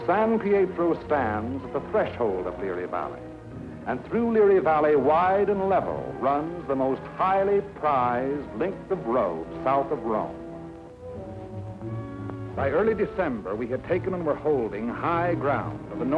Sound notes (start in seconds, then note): none